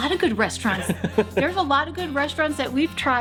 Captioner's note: laughing